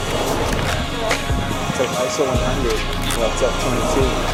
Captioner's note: background chatter